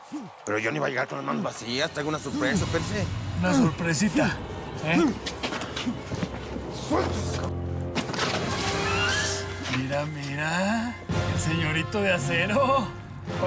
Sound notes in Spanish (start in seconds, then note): 4.9 gruñidos